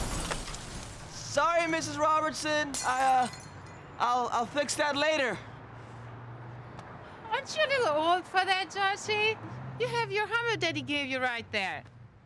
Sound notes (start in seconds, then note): 4.9 breaking glass sound